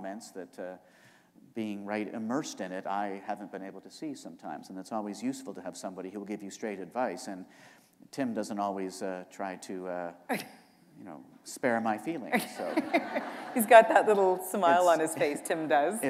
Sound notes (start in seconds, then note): 12.2 laughter